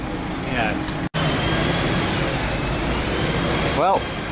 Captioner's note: loud Traffic Noise